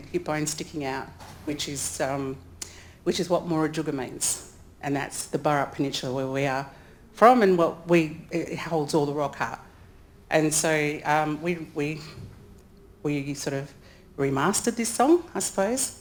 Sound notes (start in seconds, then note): none